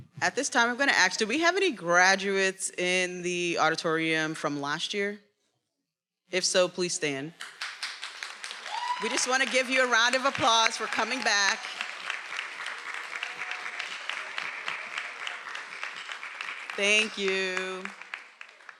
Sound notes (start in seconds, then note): 7.5 attendees applauding and cheering